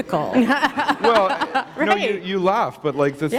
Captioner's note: laughter